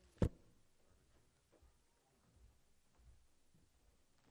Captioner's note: silence